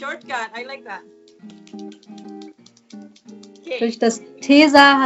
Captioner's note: eyeliner bottle shaking